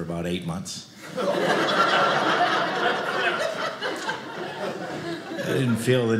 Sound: audience laughing

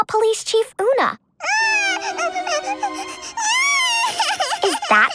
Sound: crying

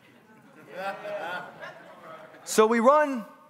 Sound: congregants laughing

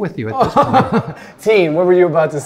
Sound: laughing

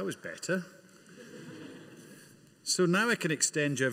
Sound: audience laughing

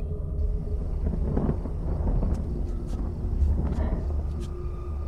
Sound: thunder rumbling

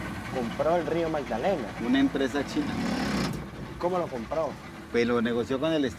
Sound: speaking in foreign language

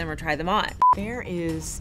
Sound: beep

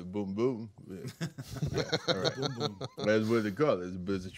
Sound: group chuckling

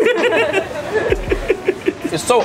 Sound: laughing

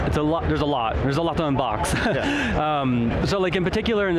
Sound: laughs

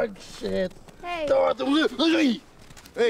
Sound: sputters

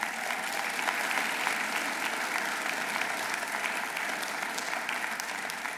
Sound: audience applauding

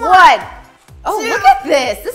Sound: counts to 10 in background

